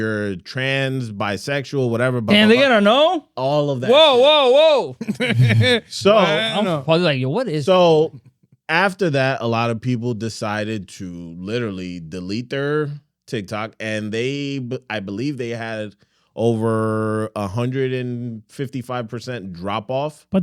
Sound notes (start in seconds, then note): 5.7 laughing